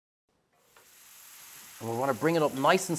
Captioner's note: pan sizzles